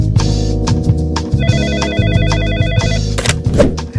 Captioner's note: phone ringing